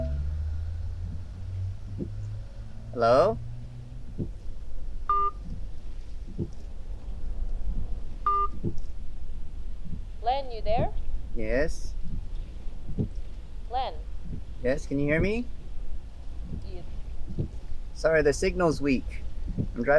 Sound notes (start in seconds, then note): 0.1 phone beeping; 5.1 phone beeping